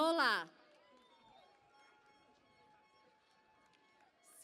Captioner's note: cheering and Applause